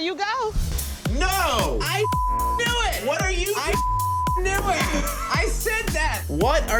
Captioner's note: beep